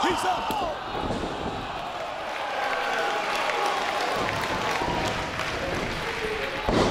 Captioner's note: applause